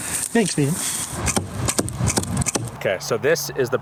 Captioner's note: 4 arrows thump